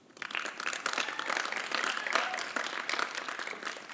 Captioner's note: applause